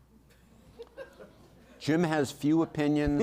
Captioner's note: audience laughing